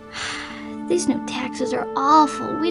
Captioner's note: sighs